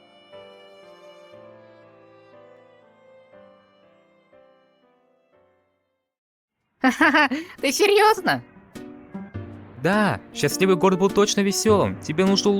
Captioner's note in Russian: смех